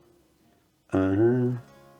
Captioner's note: humming